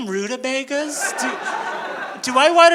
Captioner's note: audience laughing